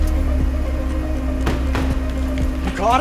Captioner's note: car door closes